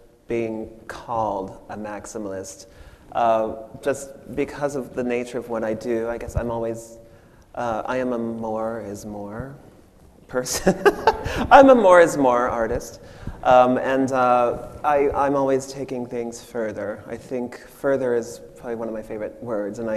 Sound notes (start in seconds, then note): 10.0 machine laughs